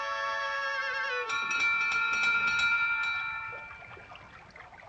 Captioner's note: harmonica evocative music; door bell ringing; water running